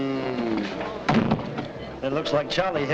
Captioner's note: door thuds shut